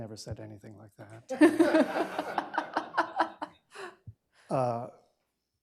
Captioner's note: laughter